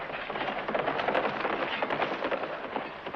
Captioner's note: hooves clattering